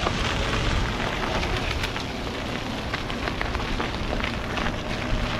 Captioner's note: bike whirring